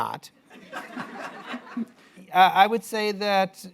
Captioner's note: laughter